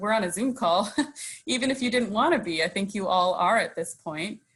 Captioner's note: chuckles